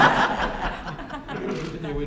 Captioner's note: laughter